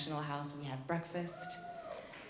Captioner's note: audience cheering